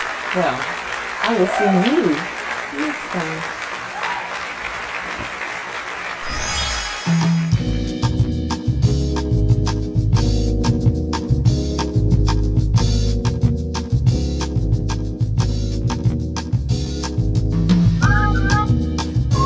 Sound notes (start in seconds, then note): 0.0 applause; 3.8 applause; 6.2 magic wand swooshes